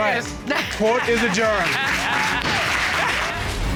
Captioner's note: gavel bangs